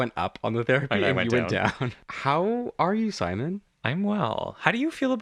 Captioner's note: laugh